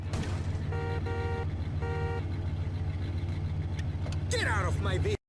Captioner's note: car horn toots